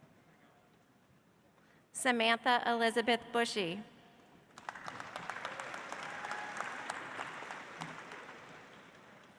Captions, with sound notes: Samantha Elizabeth Bushey. (audience applauds)